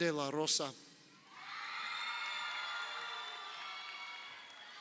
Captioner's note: crowd cheering